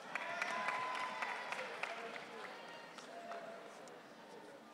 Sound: audience cheering

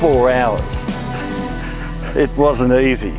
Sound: chuckles

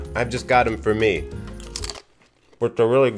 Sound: crunching

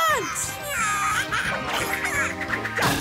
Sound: chattering

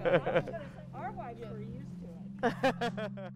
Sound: laughs

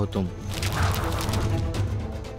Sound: pages rustle and blow

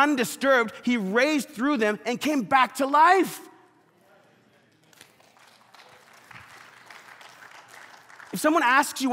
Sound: congregations applauding

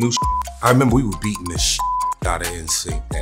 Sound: beeps

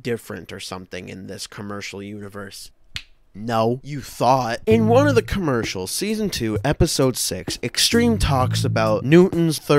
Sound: snaps fingers sassily

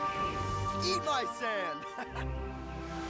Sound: laughs

